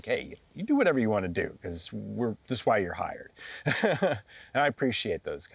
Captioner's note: chuckles